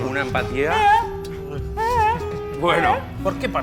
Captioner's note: yawn playfully